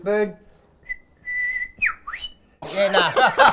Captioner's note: imitates birds calling; laughs